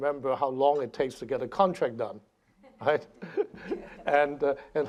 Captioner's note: laughing